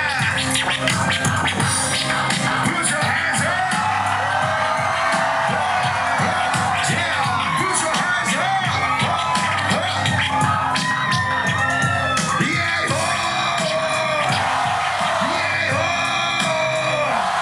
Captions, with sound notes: Put your hands up! (cheering) Yeah, put your hands up! (chanting, crowd chanting back)